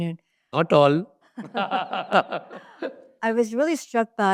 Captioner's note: laughs